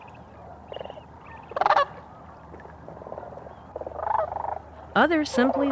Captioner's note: birds chirping